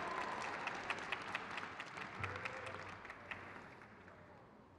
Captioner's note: crowd cheers